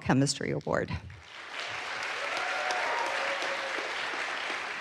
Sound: audience applauds

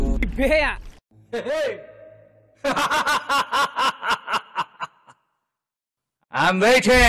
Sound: laughing

